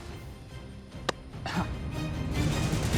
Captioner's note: laughs